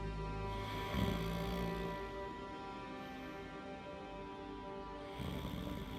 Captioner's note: snoring